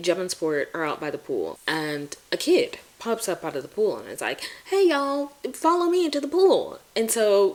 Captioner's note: in a country accent